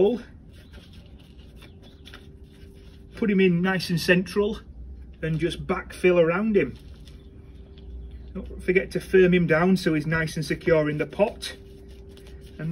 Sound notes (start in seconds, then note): 0.1 pot shuffling; 6.6 Tulbaghias shuffling; 10.8 Tulbaghias shuffling